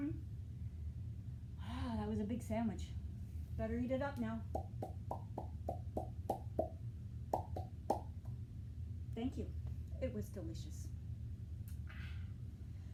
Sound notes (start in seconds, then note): 4.6 eating Sound Effects